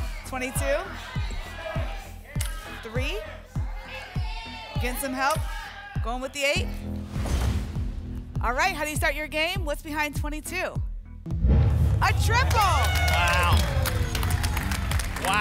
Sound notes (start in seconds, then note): 7.0 thump; 7.1 whoosh; 11.3 rumbling sounds; 14.3 applause and cheering